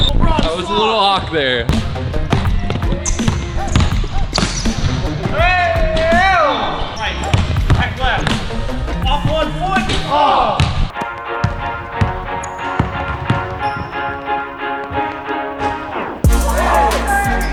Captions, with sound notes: - That was little off there. (ball bounces) - Aye yo! (ball bounces) - Right left. - Off one foot. - Oh! (upbeat orchestral music)